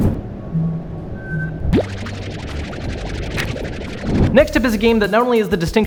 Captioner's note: beeping and whirring